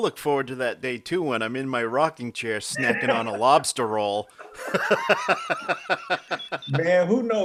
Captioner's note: both laughing